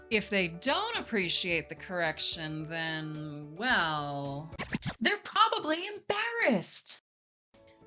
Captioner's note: record scratch